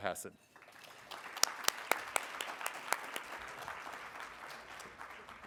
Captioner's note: everyone applauding